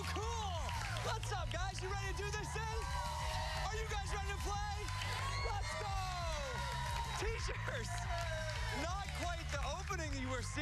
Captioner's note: cheers and applause